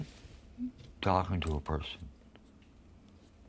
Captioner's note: none